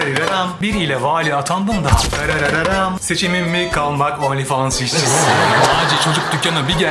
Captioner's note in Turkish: kahkaha